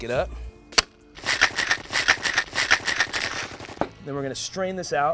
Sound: machine gun blasting; ice rattling

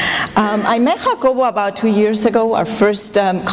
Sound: non-english

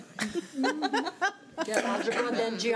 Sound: laughing

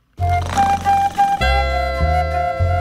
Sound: George snores

